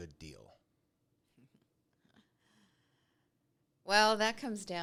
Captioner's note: giggles